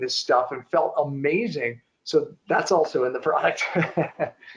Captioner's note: chuckling